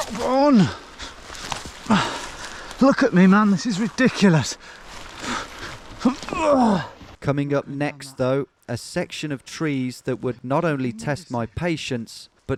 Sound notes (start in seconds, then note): 6.1 groaning